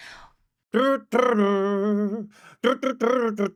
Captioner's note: imitates guitar